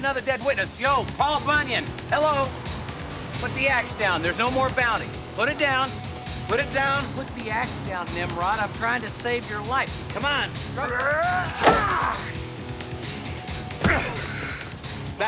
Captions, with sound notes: We don't need another dead witness. Yo, Paul Bunyan. Hello! Put the ax down, there's no more bounty. Put it down. Put it down. Put the ax down, nimrod. I'm trying to save your life. Come on. (grunting) (groans)